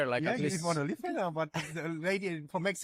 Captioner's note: laughter